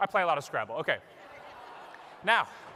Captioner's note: laughter